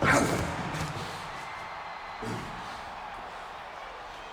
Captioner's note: audience cheers